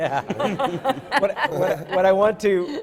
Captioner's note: laughter